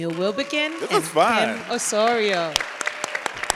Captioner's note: audience applauds; audience continues to applaud